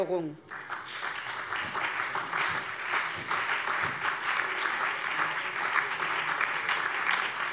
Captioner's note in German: Beifall SPD, BÜNDNIS 90/DIE GRÜNEN und DIE LINKE